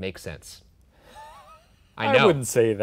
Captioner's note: laughing